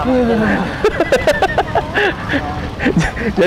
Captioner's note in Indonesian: ketawa